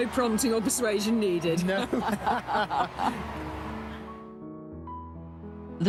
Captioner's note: both laughing